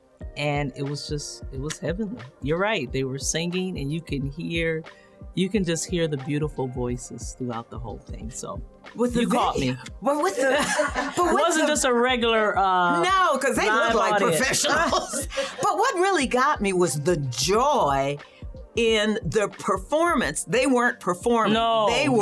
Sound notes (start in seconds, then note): 10.2 laughter